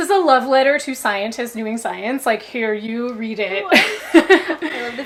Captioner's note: laughs